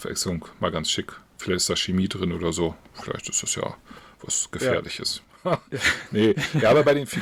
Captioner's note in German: gelächter